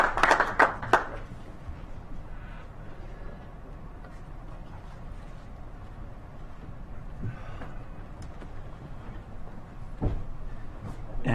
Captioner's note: clapping